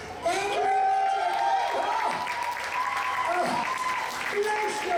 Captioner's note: applause